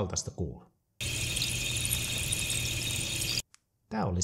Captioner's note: the sound of air bubbles in the pool of water